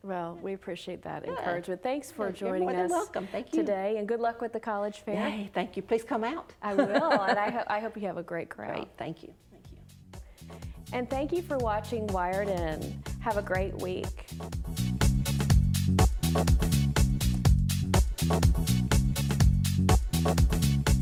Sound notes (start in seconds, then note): 6.7 laughs; 14.4 upbeat music